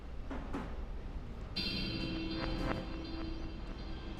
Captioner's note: gun clanging